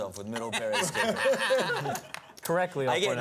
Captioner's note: laughter